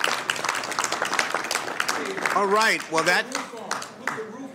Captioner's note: applause